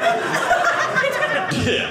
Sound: audience laughing

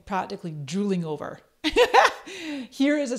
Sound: laughs

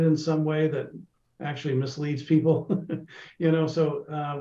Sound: laughs

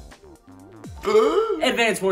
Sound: gasps

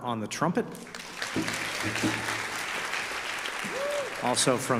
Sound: audience applause

